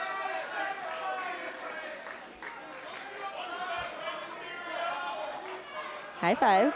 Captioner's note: crowd cheering